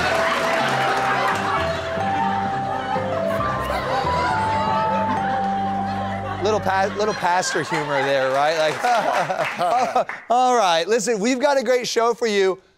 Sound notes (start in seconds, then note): 0.0 laughter / Lullaby Music; 7.2 applause